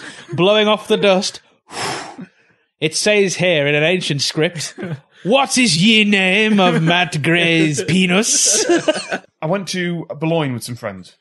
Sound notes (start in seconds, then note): 1.4 blowing noise